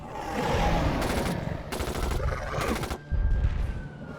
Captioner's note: gun firing; siren wailing